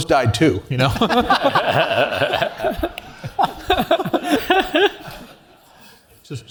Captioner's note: laugh